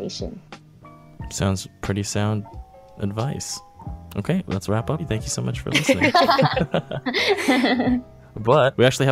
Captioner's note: laughter